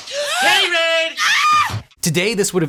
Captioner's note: woman screams